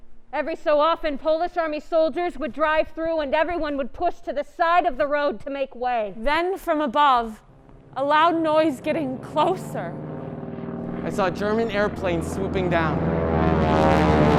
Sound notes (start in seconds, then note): 7.1 German airplane approaching